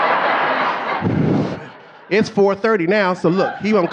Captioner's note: audience laughing